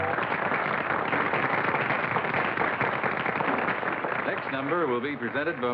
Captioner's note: applause